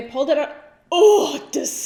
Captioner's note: groans